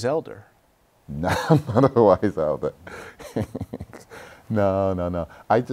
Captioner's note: laughter